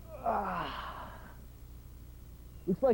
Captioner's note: yawns